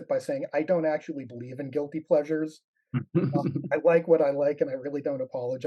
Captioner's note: laughs